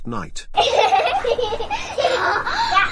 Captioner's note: kids giggling